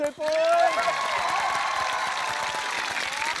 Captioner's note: cheering, applause